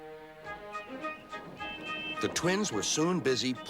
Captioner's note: hooting